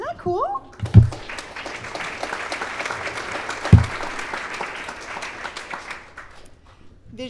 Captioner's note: clapping